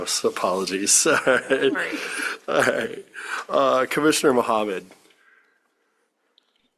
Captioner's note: laughter